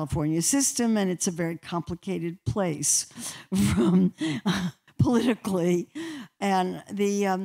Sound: laughter

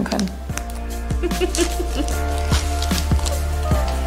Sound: chuckles

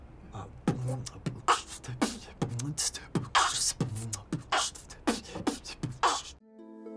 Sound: beatboxing

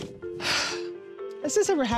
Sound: exhale

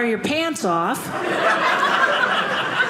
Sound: audience laughing

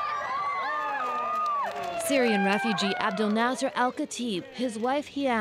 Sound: cheers and Applause

